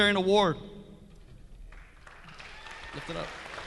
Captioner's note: audience clapping